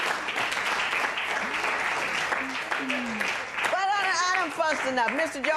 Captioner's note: applause